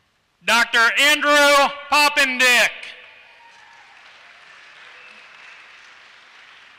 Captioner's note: applause